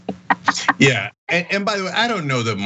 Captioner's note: laugh